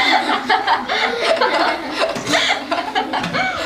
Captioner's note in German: Alle lachen